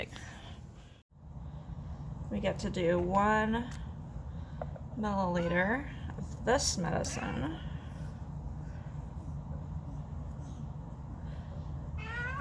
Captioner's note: Chester meows